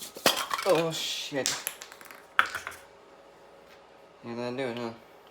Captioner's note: bottle cap drops on floor